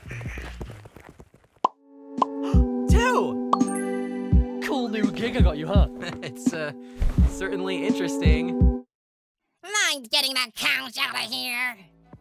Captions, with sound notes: TWO! Cool new gig I got you, huh? [laughs] It’s certainly interesting. Mind getting that couch out of here?